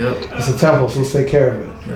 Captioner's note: laughing